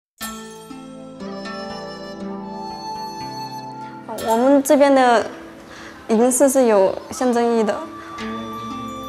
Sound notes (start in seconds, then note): 0.2 traditional Chinese music; 4.5 speaking foreign language